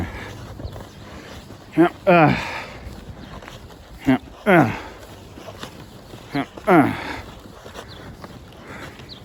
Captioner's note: grunts as she walks to the dumpster